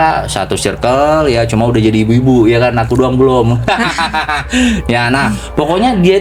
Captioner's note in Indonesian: tertawa